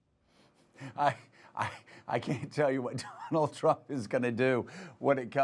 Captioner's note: laughs